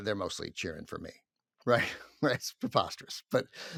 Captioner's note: chuckles